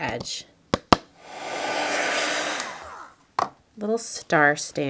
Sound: dryer whirring

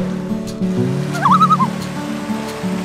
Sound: loon calls

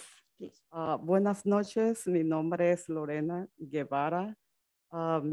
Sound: speaks Spanish

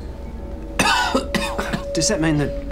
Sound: coughs

